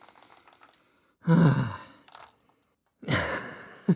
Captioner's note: heavy sigh; chuckle